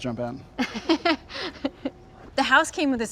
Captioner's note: Genevieve laughing